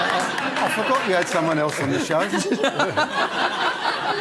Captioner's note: cockney accent